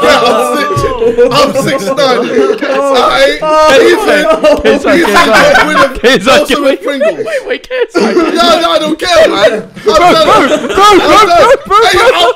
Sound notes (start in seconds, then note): 2.3 all laughing